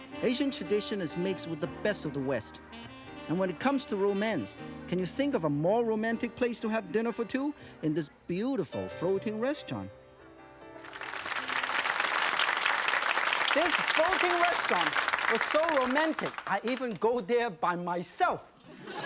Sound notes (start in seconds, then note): 10.8 audience claps